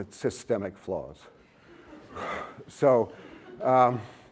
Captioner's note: laughter